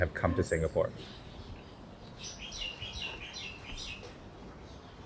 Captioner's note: wildlife chirps